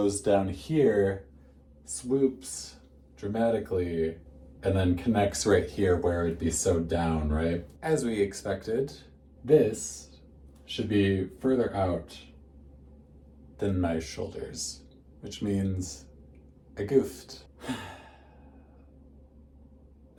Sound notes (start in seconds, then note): 17.6 heavy sigh